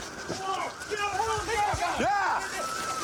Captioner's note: officers yelling